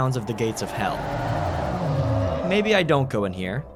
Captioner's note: creature growls